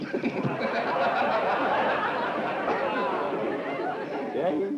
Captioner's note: laughter